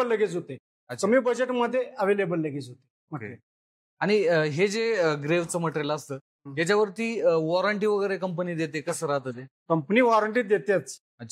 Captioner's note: conversation